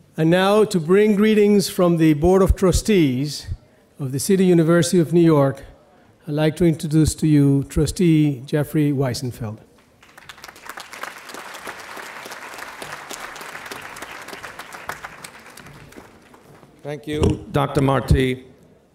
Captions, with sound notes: - And now, to bring greetings from the Board of Trustees of the City University of New York, I'd like to introduce to you Trustee Jeffrey Wiesenfeld. (audience applauding) - Thank you, Dr. Marti.